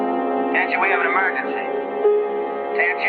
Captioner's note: Jeff on PA